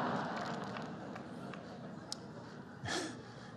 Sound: laughter

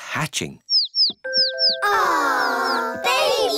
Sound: chicks cheeping

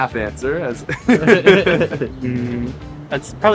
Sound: chuckling

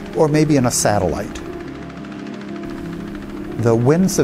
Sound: propellers clicking

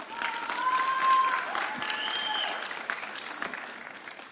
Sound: audience cheering

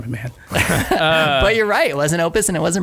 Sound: laughter

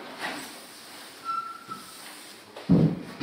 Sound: squeak

